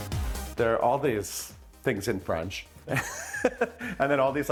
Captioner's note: upbeat music; chuckles